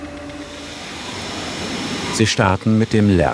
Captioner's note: machine noises